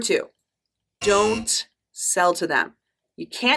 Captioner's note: error buzzing